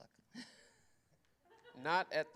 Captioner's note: laughter